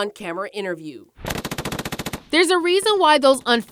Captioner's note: gun firing rapidly